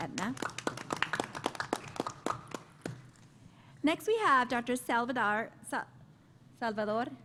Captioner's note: applause